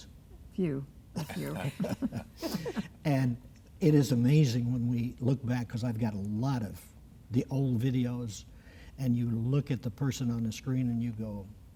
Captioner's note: laughter